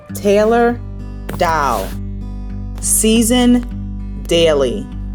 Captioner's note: none